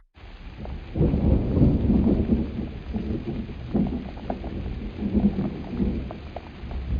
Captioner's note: thunder